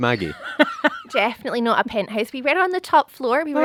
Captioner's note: laughing